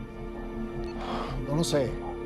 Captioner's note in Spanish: Bip